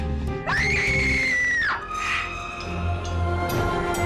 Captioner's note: screaming